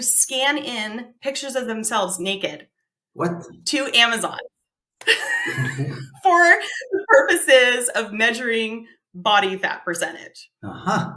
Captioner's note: laughs